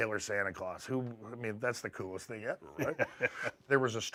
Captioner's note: laugh